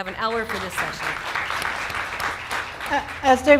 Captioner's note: clapping